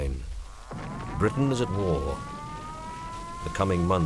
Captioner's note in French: Sirène d'alerte aérienne et incendie